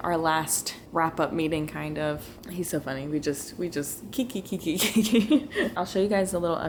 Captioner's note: laughter